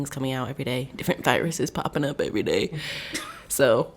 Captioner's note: all laughing